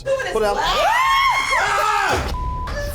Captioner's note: everyone yells; beep